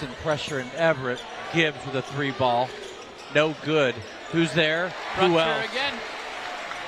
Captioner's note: applause